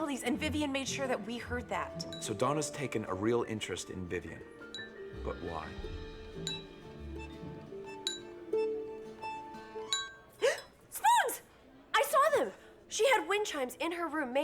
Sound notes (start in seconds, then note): 6.4 clink... clink; 8.2 clink; 10.4 gasps